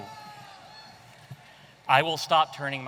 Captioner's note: audience cheering